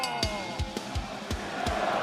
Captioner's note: bell ringing